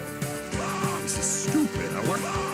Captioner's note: Joe Swanson screaming